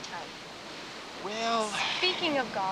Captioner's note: sighs